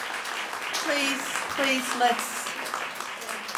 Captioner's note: applause